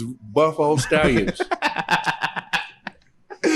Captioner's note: laughs